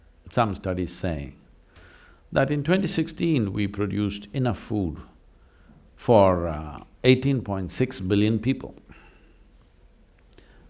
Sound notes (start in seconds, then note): none